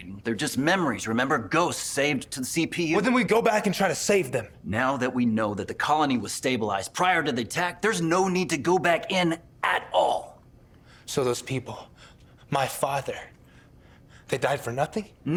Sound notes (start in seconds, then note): none